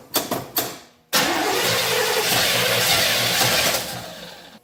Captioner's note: engine cranks